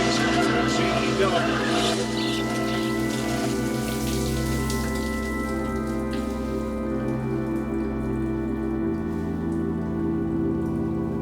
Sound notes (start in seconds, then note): 0.1 laughter; 5.1 shower stops